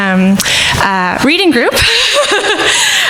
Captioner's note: laughs